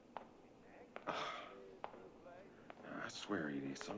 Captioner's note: sighs